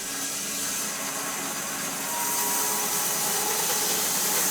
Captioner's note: sawmill sawing